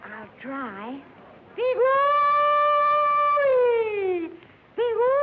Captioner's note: hollering